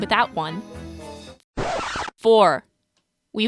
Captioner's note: record scratch